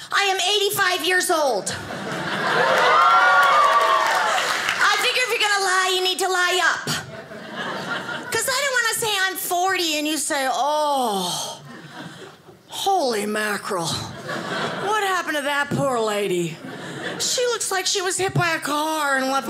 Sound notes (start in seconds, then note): 1.7 audience laughing